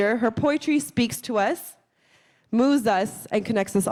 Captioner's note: none